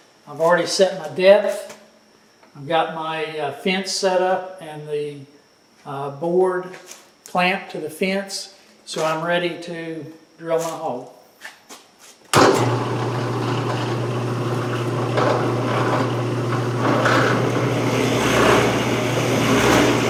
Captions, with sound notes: I've already set my depth. I've got my fence set up and the board clamped to the fence. So I'm ready to drill my hole. (machine humming) (drill grinding)